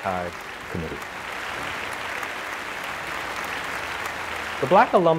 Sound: applause

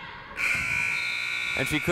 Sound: half time buzzer sounding

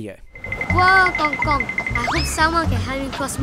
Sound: crossing beeping

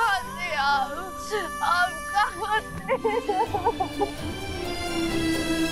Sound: sobbing; sentimental music playing

